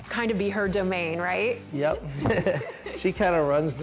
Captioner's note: laughs